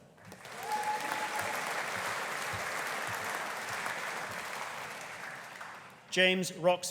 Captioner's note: audience applauding; audience cheering